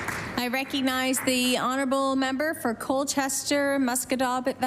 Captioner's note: applause